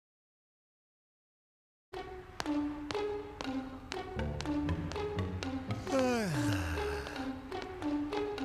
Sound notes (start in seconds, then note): 5.8 yawning